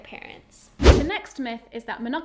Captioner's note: air whooshing